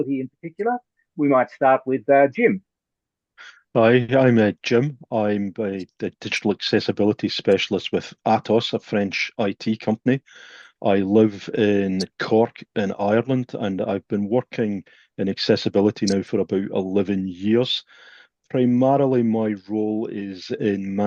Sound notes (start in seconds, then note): 3.1 Scottish accent